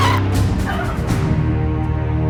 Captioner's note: woman screams; woman whimpers